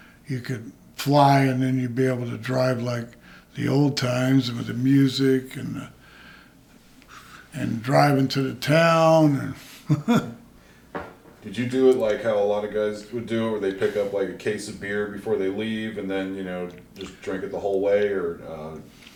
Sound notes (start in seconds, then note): 9.6 chuckles